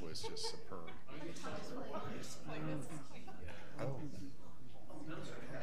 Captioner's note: people chattering